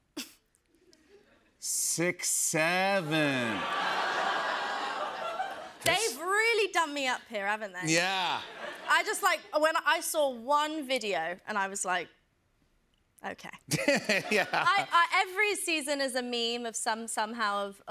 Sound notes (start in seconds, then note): 3.2 laughter; 13.7 laughs